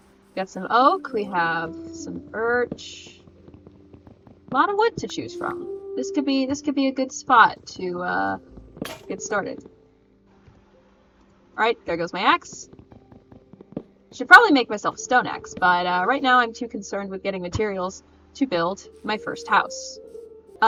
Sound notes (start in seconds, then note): 8.8 axe breaks